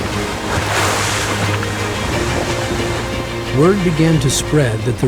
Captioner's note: water splashing